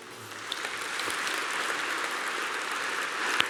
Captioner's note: applause